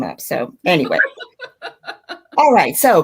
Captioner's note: laughing